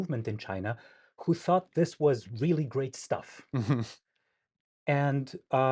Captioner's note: chuckles